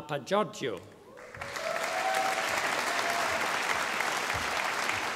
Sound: audience applauding

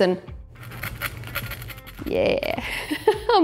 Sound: toast scratching

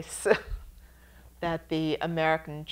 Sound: chuckles

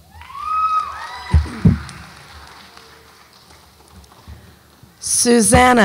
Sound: audience applauds and cheers

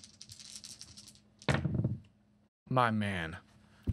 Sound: dice rattling

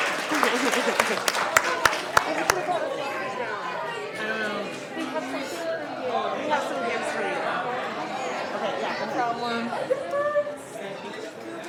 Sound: applause; cheers and applause

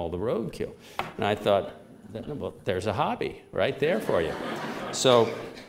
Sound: laughter

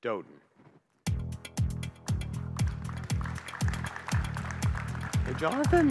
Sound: upbeat music; audience clapping

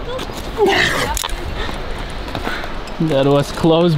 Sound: grunting

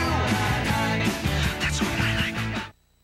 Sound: whispered

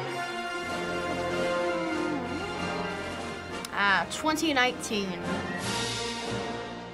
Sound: hums

